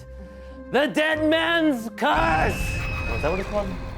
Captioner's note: screaming; spooky laughing